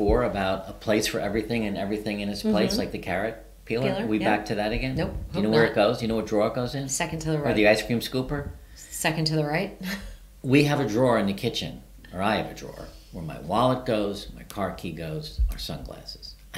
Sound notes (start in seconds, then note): 9.7 chuckles softly